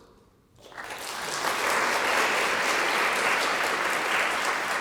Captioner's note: audience clapping